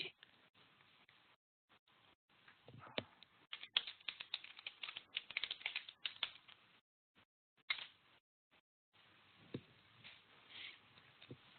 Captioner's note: silence